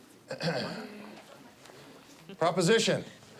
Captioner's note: Stephen clears throat